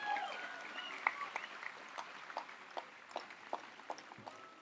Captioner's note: audience applauds and cheers